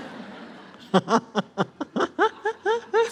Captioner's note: all laugh